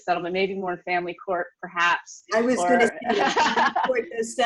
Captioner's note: laughs